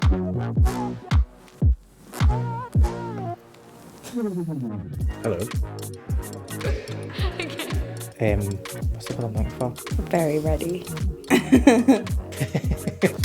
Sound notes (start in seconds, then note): 5.9 laughs